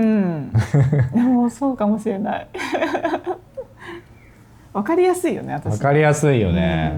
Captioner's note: laughs